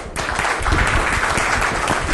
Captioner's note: group applauding